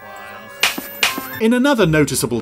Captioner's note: snapping